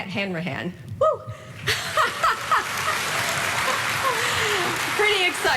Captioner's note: audience applauding